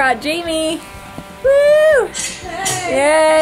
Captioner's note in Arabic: هتاف كريستال